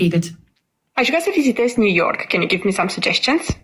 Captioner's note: speaker 4 speaking foreign language